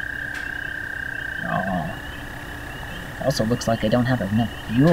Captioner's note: nighttime sounds